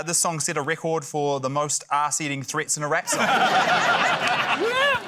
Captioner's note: laughter